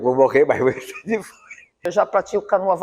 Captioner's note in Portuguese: Risadas